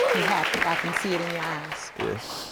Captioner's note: sniffling